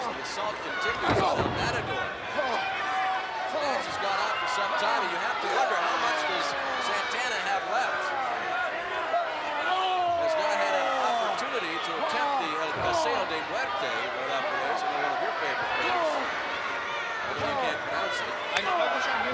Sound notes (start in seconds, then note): 8.9 wrestlers grunting; 14.1 blows thudding